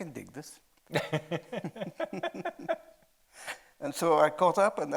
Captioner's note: chuckling; laughing